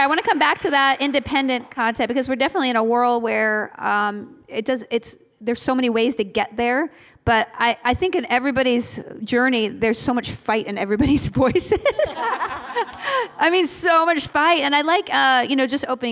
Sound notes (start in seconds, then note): 11.6 laughter; 11.8 laughing